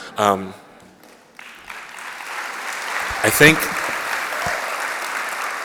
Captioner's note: applause